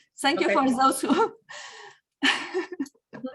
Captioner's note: laughs